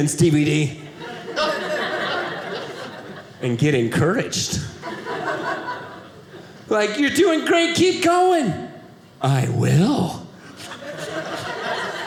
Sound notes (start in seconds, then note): 4.6 audience laughing; 10.5 audience laughing